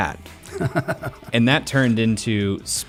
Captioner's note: laughs